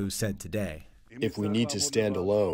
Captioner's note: through translator